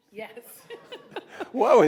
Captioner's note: laughing